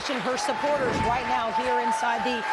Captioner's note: applause